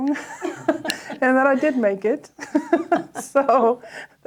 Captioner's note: laughs